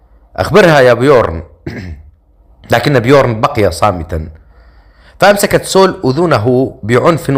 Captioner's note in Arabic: تنحنُح